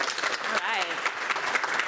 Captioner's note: applause